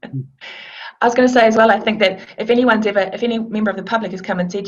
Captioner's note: laughs